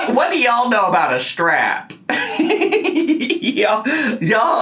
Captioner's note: laughing